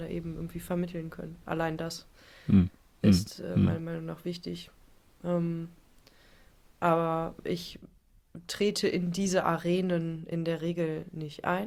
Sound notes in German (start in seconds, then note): 3.0 räuspern